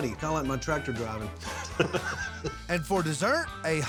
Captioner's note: chuckling